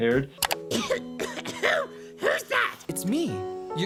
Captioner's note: coughing